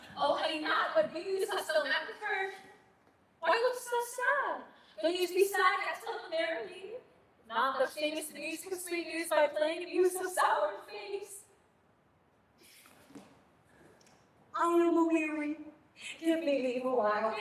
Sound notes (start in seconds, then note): none